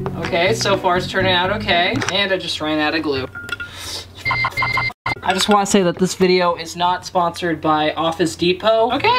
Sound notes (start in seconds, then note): 4.5 electronic screeching